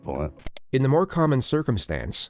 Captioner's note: click